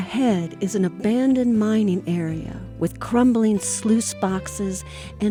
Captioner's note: voiceover